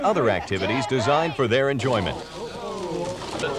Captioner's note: indistinct chatting